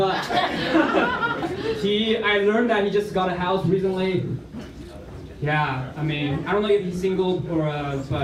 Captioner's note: laughter